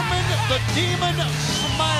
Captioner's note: crowd cheering